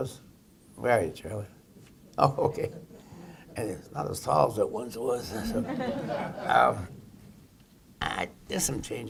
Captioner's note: laughter